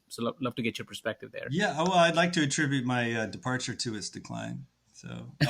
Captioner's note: laughs